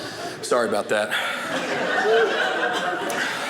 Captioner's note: audience laughing